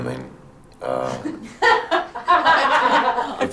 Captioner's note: laugh